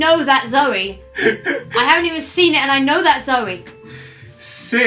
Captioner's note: laughs